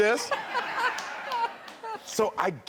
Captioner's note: laughs